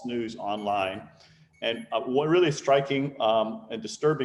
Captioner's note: phone beeping